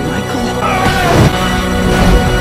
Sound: John grunts

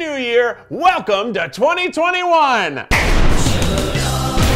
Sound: party poppers popping

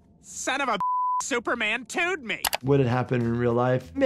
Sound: beep

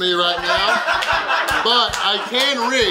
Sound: audience laughing

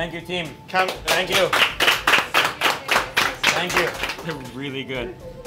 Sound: clapping

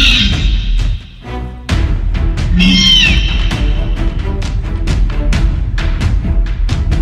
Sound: raptor sounds

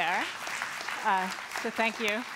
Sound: applause

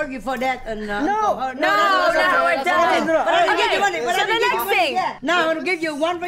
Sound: group shouting and exclaiming

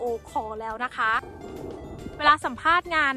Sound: airplane sound

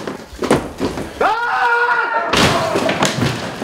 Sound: he screams; loud crash

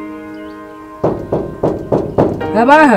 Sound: Knocking

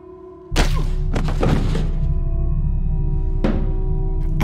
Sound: man falls

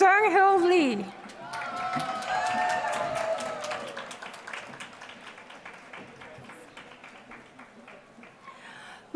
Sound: applause

